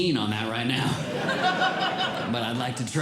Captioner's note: audience Laughing